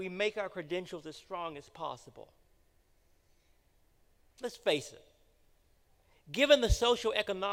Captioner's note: none